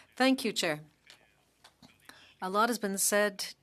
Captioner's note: speaking French